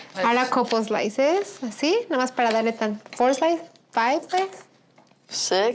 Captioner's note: speaking Spanish